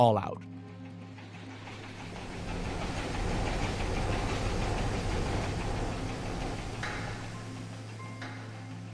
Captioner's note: soundbite of factory machinery running